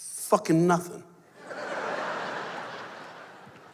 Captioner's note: laughter